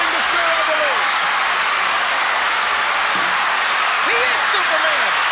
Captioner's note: crowd cheering continues